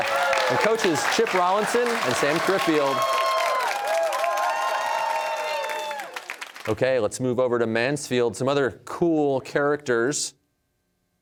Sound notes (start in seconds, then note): 3.0 cheers and applause